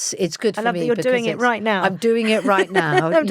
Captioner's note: laughs